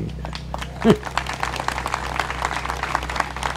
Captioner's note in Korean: 박수